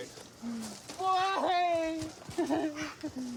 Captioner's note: sobs